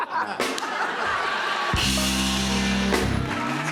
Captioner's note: laughter